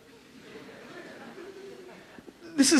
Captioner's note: audience chuckles